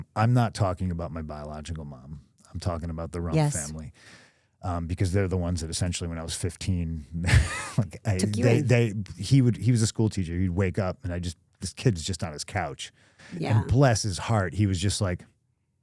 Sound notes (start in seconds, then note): 7.1 CM Punk laughs